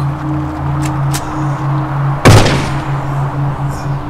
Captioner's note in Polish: odgłosy strzału